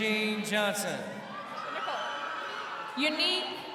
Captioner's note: crowd cheering